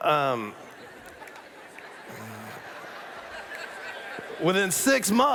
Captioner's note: laughter